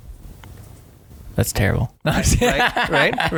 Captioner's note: laughing